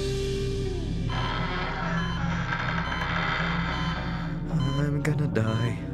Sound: suspenseful music; door creaking

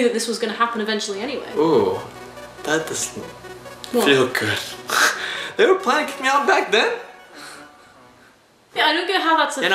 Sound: laughs

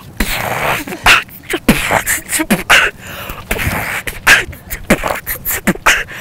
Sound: beat boxing

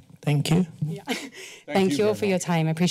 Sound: laughs

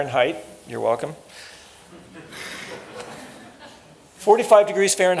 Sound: laughter

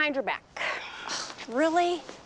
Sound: scoffs

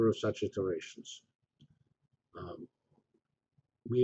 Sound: pause

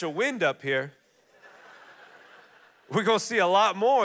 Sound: congregation laughing

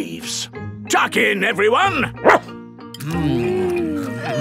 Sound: barks

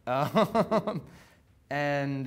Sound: laughing

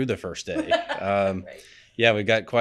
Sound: laughing

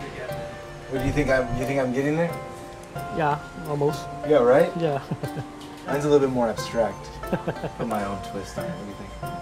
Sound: laughs

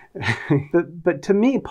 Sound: laughs

